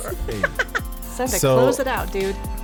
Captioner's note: woman laughs